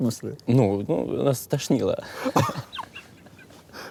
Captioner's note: both laugh